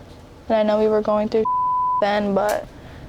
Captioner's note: beep